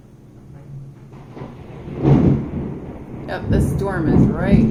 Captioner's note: thunder